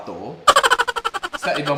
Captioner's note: laughter